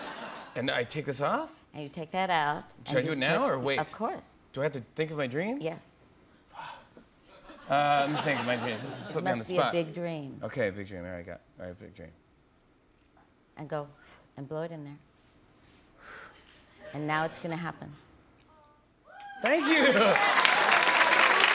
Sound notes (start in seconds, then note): 15.8 blows; 19.2 cheers and applause